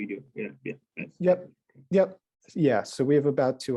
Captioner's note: voice muffling